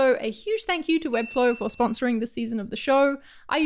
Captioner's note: ding